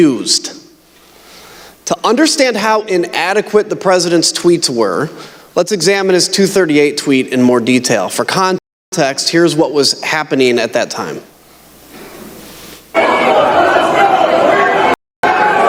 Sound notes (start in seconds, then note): 10.2 shouting